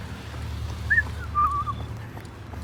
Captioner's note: whistling